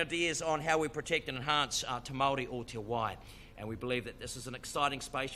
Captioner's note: speaks in foreign language